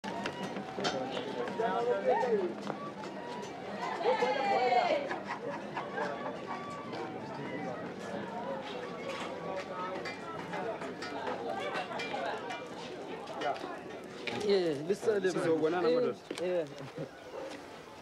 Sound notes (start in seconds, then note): 14.2 all chattering